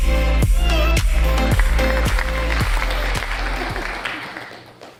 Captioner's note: audience clapping